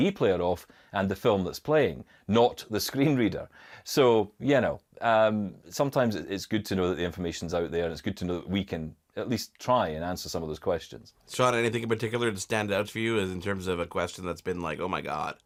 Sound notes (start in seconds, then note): none